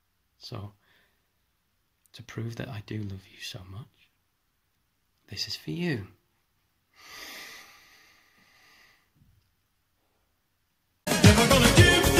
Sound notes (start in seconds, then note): 6.9 deep breath